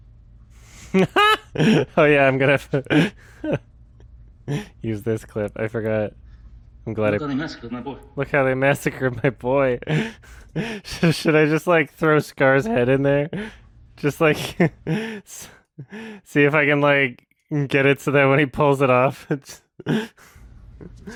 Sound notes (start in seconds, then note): 0.8 laughs; 8.6 chuckles when saying it